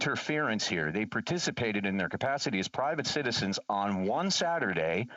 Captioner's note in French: voix de l'interprète